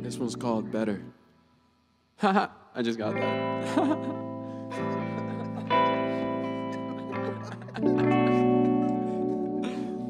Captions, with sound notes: This one's called, Better. Ha, ha, I just got that. (laughing)